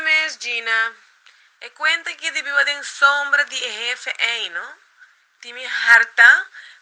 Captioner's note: Micheline on the phone